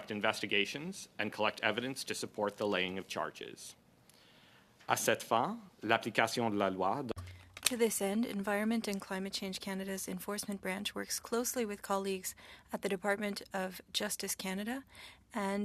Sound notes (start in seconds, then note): 9.8 speaking French